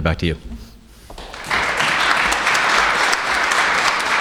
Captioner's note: applauses